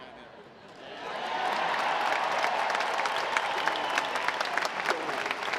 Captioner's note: audience applauds